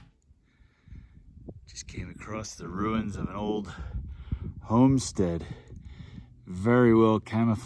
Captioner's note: light wind noise